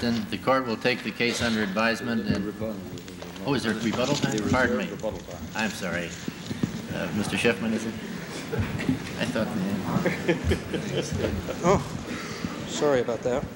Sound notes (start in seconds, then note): 10.0 laughter